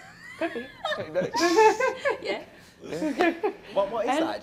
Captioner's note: laughter